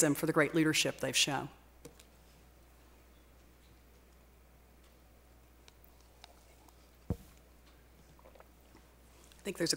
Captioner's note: pause